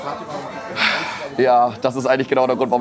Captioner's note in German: Seufzen